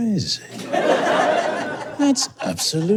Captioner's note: audience guffaws